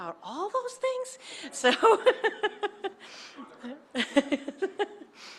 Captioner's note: laughing